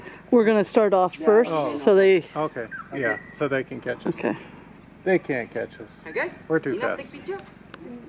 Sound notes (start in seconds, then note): 7.5 laughing